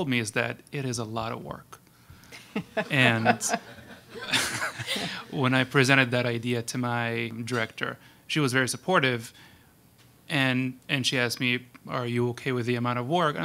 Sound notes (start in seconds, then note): 2.3 laughing; 2.4 panel members laughing